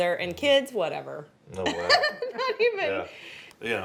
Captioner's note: laughter; voice-over